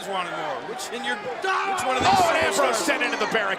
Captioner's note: Ambrose crashing